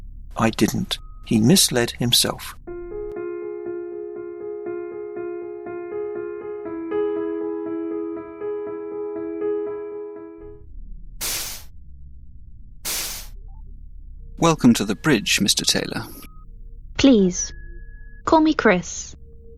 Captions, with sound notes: I didn’t – his misled himself. [doors swish] Welcome to the bridge, Mr Taylor Please, call me Chris